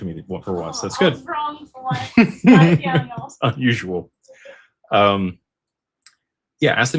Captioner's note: laughter